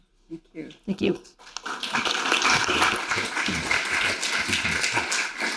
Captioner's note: audience applauding